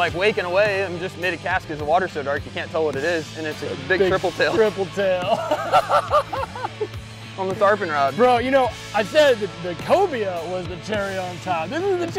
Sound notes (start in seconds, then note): 7.1 laughing